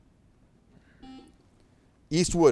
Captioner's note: buzzer beeps